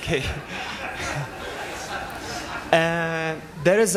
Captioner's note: laughter